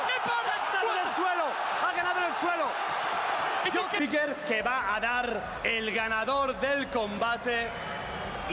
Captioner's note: cheer